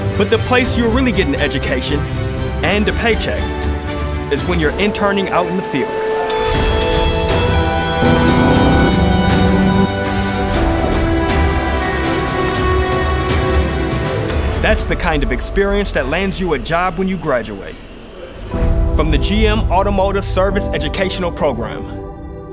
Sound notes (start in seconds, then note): 6.1 tense upbeat music; 6.7 car engine revving